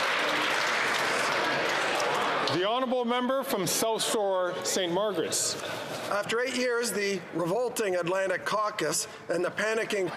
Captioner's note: applause